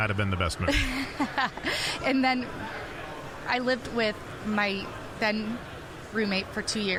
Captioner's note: laughing